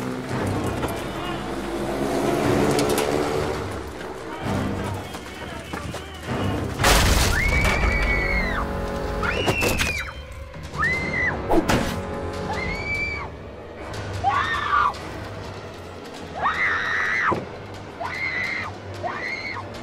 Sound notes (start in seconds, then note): 0.0 engines buzzing; 0.3 men chattering; 7.2 Lindsay and Ryder screaming; 9.8 ax thudding; 14.2 Lindsay screaming